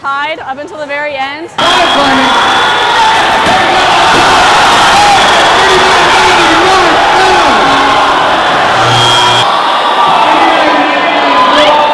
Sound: cheering

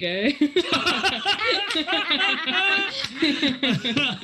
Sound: group laughs

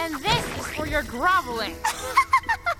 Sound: chuckling

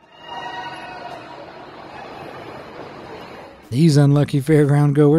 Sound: riders screaming

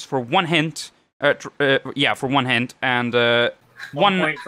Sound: stutters

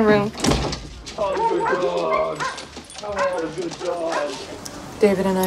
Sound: dogs barking

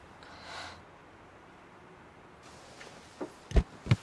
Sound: wife sighs

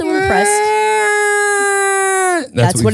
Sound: impersonating baby crying

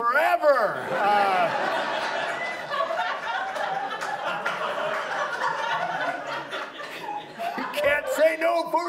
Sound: audience laughs

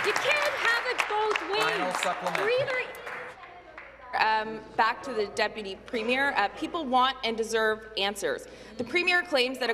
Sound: applause

